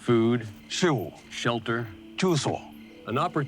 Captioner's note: translator speaking Chinese